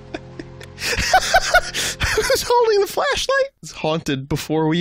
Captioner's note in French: plus de rires